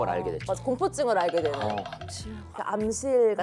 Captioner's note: shudders